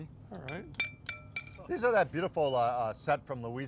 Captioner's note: baster clangs